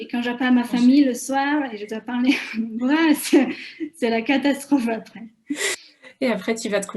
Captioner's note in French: Rires